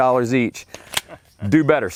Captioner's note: chuckling